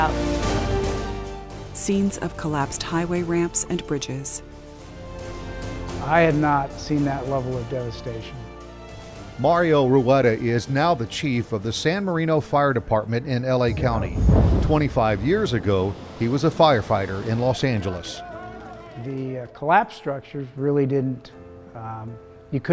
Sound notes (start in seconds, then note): 0.3 dramatic orchestral music; 13.6 loud boom; 16.8 voices shouting